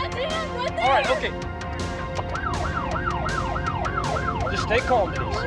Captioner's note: siren blaring